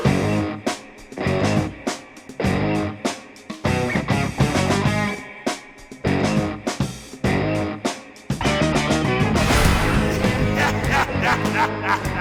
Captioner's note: Puppetine cackles